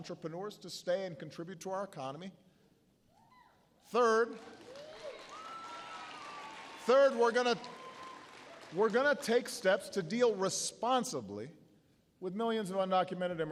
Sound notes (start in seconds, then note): 7.5 applause